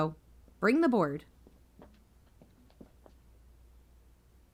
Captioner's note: footsteps, fade out